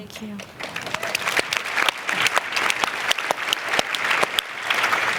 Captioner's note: applause